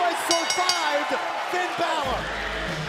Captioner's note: bell ringing